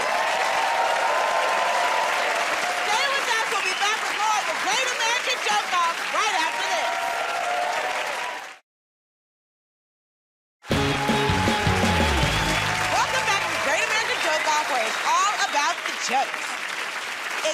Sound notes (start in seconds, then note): 0.0 cheers and applause; 10.6 cheers and applause